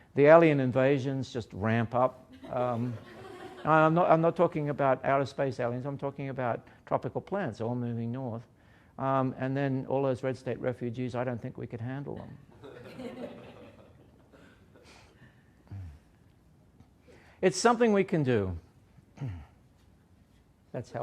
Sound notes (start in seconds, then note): 2.3 laughter; 12.2 laughter